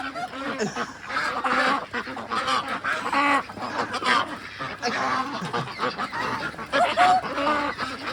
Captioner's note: laughing